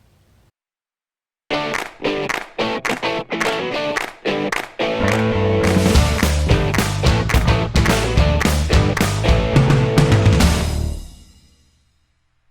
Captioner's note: claps